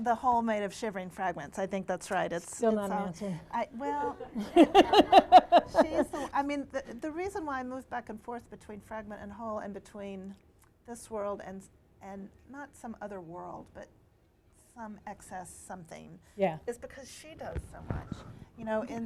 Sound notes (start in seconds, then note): 3.9 laughter